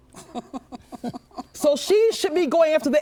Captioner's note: laughing